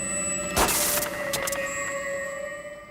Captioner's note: hissing